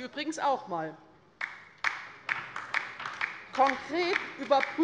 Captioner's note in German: Beifall bei der LINKEN